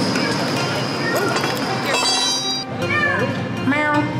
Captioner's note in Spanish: Charla de fondo